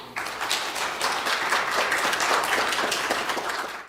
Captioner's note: audience clapping